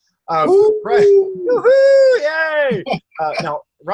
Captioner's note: hooting and cheering